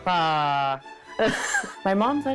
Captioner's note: laughs